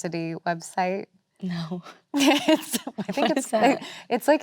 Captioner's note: Elizabeth laughs